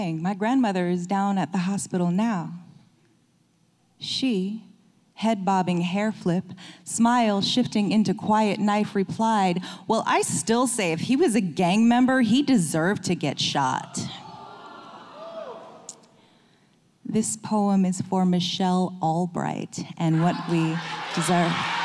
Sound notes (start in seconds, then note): 14.1 audience moans; 20.2 audience cheering